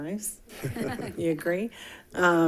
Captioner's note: group chuckling